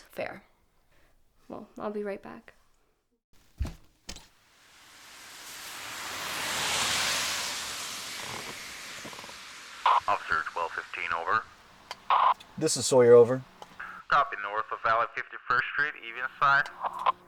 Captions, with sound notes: - Fair. - Well, I'll be right back. [car driving by] [dispatch radio] - This is Sawyer, over. [dispatch radio]